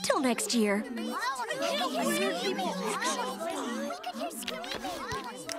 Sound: chattering

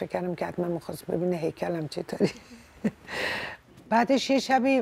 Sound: laughter

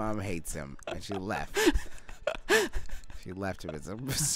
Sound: snickering

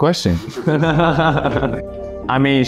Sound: Jeremy and Joe laughing

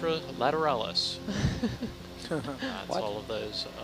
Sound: all chuckling

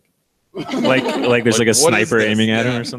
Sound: all laugh

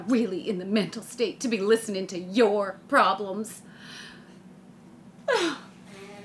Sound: sobs; nose blowing

